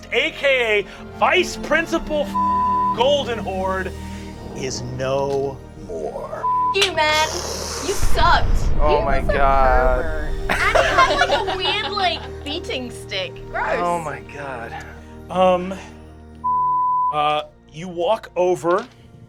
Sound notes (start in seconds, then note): 2.2 beeping; 6.4 beeping; 9.0 cast laughing; 16.4 beeping